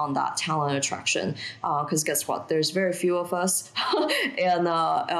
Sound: chuckling

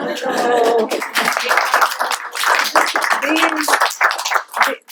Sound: applause

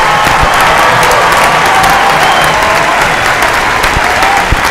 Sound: cheers and applause

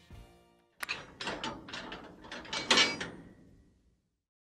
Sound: metal lock closing

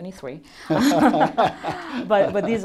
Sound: laughter

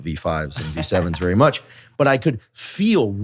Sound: laughs

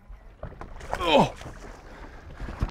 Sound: grunting

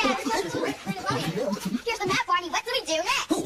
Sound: fast Forward/sped up dialogue

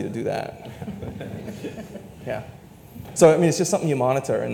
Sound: panelists laugh

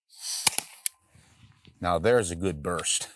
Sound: shot fires

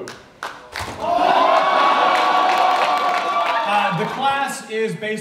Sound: audience clapping

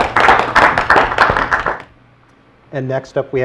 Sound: applause

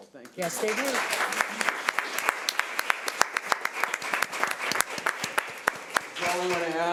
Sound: audience clapping

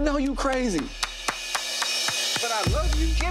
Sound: applauding

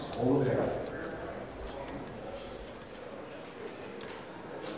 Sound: people chattering

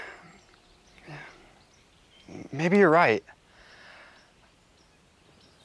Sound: sighs

